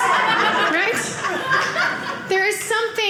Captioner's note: audience laughing